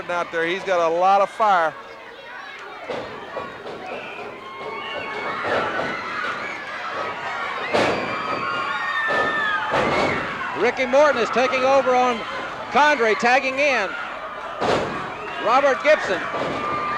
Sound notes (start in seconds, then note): 2.6 audience cheering; 2.9 floor banging